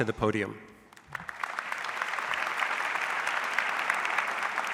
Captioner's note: audience applauds